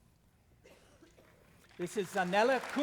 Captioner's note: applause